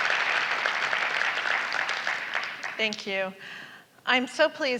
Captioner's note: applause